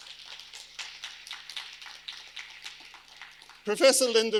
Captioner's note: audience applauding